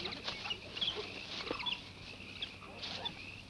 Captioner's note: birds chirp